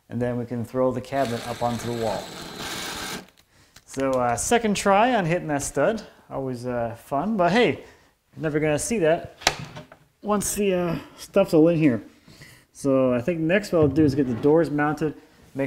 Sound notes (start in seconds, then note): 1.2 drill whirring